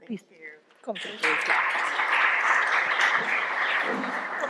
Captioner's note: applause